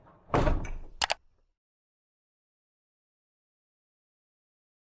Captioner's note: computer mouse clicking